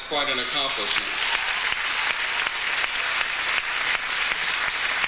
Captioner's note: audience applauds